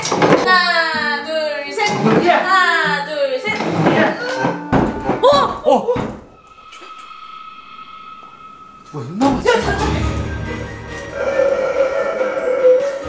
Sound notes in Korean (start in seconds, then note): 0.0 의자 소리; 3.4 의자 소리; 3.5 쿵쿵쿵, 노크 소리; 4.0 놀라는 탄성; 11.1 코골이